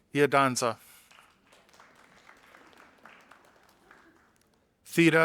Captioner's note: audience applauding